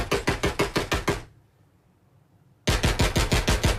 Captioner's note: gunshots